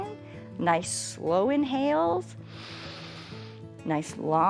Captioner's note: inhales